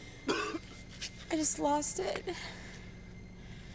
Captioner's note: weepy voice